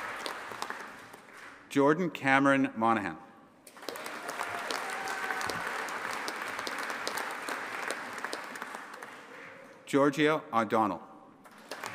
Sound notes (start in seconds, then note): 3.7 audience applauding and cheering